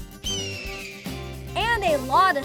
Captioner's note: hawk screeching